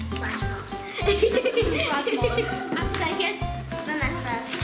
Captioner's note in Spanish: risa